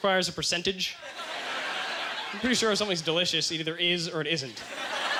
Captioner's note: audience laughter